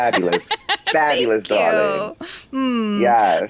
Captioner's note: laughs